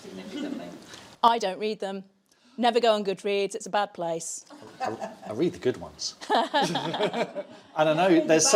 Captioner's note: laughs